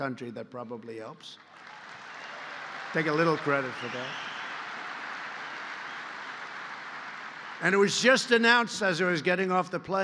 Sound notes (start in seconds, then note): 1.3 applause